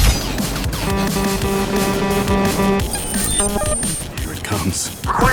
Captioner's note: alarm blaring